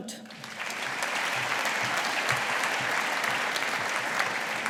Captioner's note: audience applauding